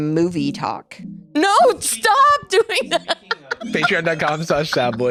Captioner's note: laughs